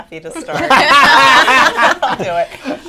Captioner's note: laughter